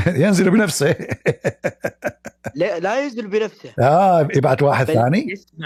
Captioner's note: Ketawa